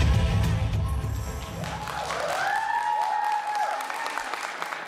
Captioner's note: applause